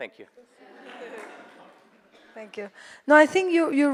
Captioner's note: audience applauds